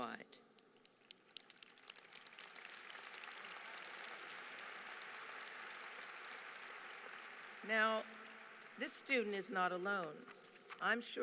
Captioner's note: applause